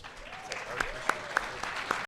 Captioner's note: audience applauds